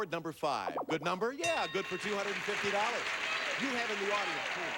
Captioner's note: audience applauding